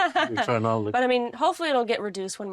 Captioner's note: laughing